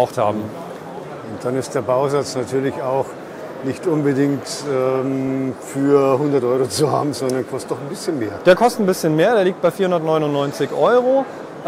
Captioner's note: laugh